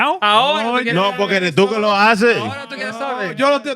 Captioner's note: speaking In Foreign Language